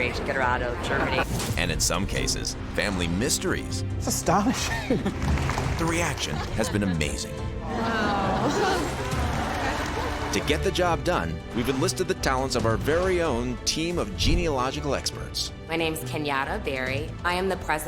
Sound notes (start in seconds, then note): 8.6 applause